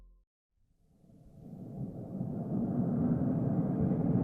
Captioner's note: engine thrumming